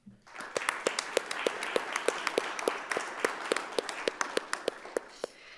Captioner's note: attendees and panelists applauding